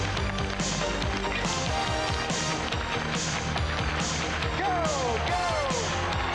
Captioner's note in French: acclamations de la foule